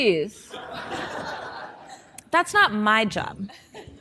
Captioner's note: audience laughing